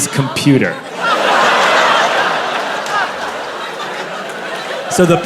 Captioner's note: crowd laughs